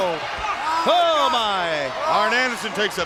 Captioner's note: Ric groaning